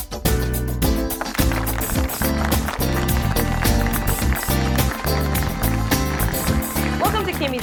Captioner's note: applause